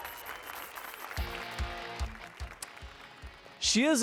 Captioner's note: applause and cheers